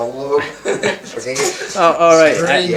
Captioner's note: laughs